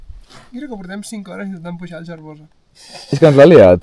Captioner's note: snorting